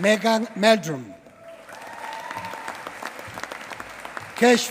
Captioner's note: applause